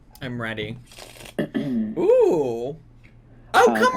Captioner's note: cards shuffle